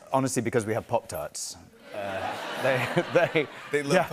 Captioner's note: laughter